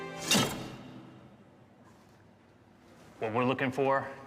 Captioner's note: slow-paced inspirational music; cabinet slams; metal clacks